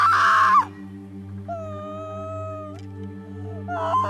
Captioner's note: crying